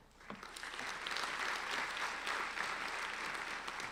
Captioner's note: applauding